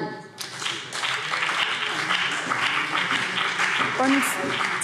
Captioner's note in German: Beifall BÜNDNIS 90/DIE GRÜNEN und CDU